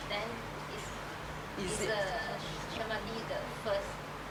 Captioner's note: woman speaks off mic